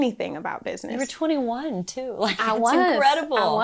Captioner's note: laughs